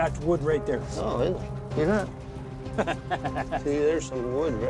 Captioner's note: laughs